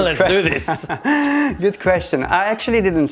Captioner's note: laughs